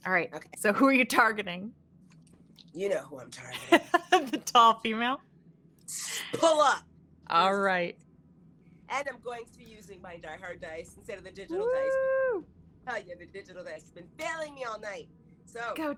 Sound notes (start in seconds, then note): 3.4 laughing